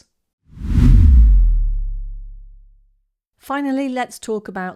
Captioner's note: air whooshing